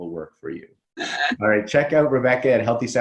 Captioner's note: laughs